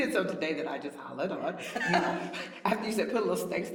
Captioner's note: laughter